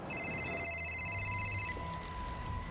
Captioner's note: phone ringing